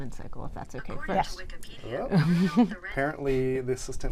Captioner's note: google assistant speaking